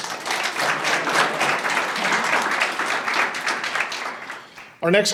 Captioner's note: audience applauding